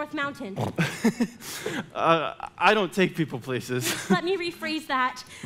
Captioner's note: laughs